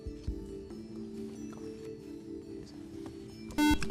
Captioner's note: whispering; buzzer